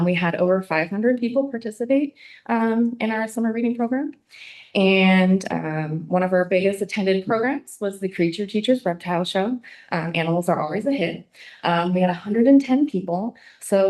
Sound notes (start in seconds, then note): none